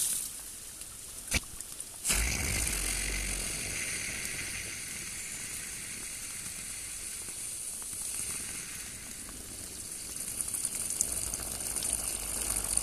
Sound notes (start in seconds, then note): 2.0 wet fart noise